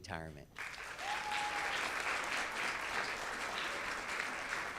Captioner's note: audience claps